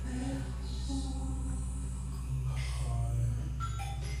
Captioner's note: person whispering softly; bright music